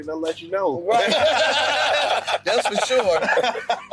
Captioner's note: everyone laughing